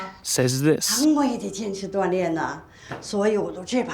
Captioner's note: in mandarin